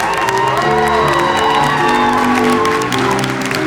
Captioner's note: audience cheers